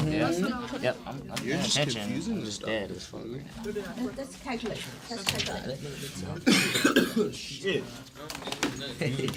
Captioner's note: students murmur